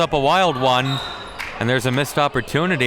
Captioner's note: whistle blows